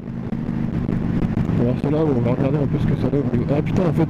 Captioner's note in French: freinage